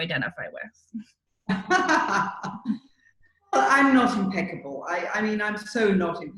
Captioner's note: laughs